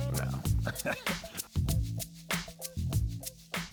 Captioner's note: laughs